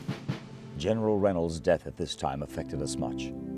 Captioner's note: voiceover